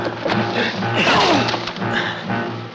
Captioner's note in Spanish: se queja